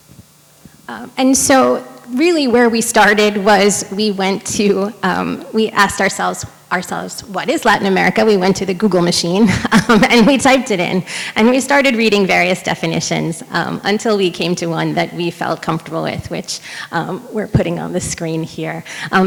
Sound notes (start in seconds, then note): 9.3 chuckles